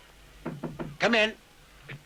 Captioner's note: door taps